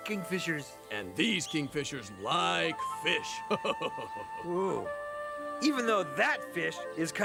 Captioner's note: laughs